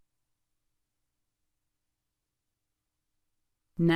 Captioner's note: silence